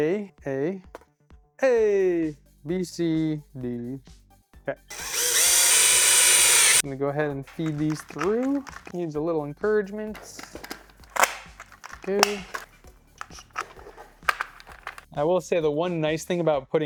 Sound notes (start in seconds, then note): 4.9 drill whirring; 10.1 clicking